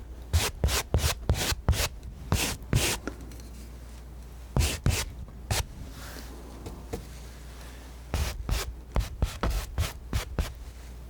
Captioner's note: scratching